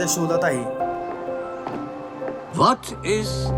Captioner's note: footsteps